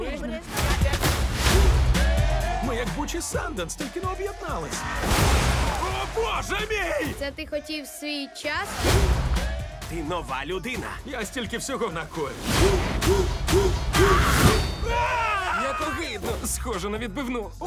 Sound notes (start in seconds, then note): 0.2 screams; 13.5 screams; 13.7 yells